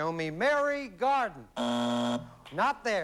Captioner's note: buzzer